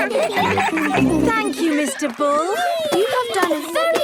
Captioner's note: giggling